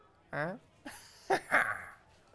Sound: laughs

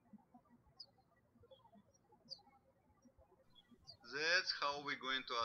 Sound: birds chirping

